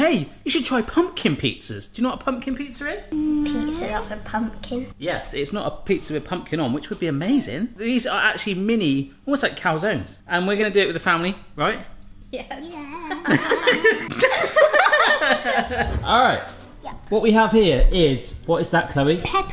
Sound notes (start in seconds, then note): 13.0 all laughing; 13.4 voice shaking